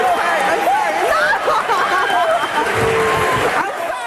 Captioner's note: laughing